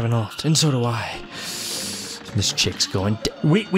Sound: tense breath

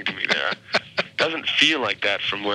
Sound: chuckling

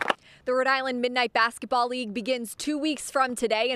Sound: claps

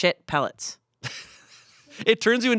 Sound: laughs

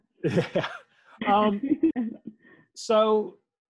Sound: both laughing

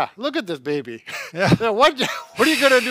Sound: chuckles

